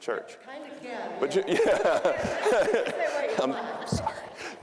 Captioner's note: audience laughing